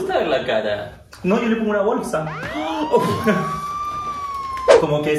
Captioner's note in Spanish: sirena de policía